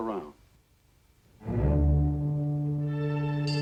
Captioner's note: ship horn blares; ship bells chime